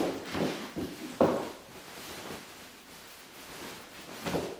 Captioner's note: fabric rustling